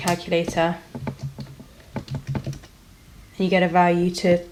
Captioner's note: typing on calculator